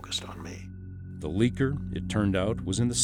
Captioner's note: voiceover